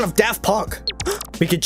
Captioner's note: gasp